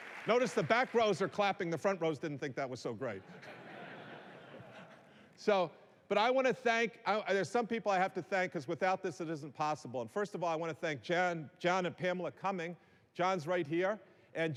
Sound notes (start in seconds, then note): 3.1 laughter